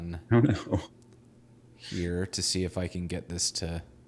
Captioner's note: laughing